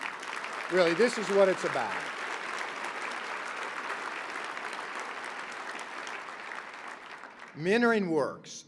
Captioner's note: applause